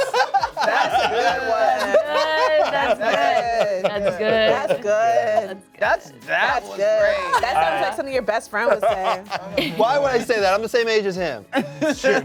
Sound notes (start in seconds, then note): 0.0 cast laughs; 2.3 laughs; 11.5 laughs